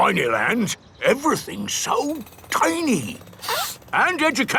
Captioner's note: sniffs